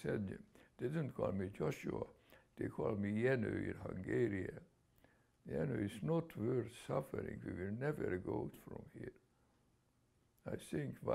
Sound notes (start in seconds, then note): 4.2 non-english